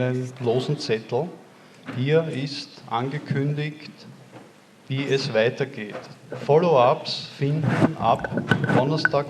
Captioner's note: announcement in german